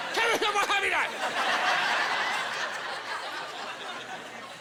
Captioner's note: shouting gibberish